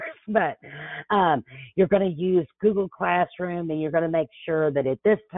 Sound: laughs

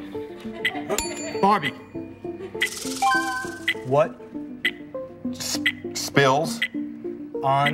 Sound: bell dings

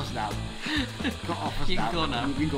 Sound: laughs

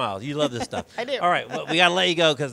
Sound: laughs

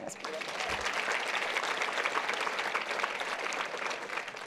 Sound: applause

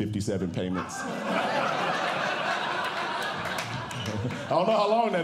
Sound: audience Laughing

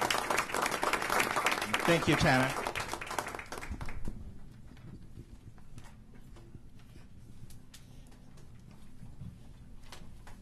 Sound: applause

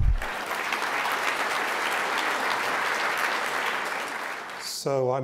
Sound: audience applauding

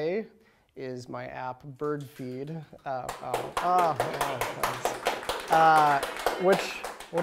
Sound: applause

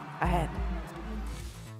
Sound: cheers and Applause

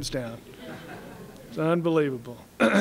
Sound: laughter

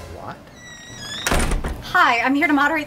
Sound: door creaking, opening and slamming closed

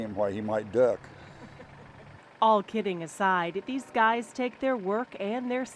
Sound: laughing

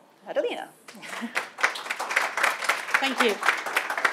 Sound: audience clapping

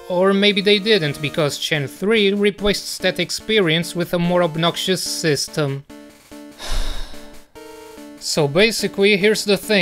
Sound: sigh

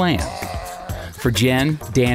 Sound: roars

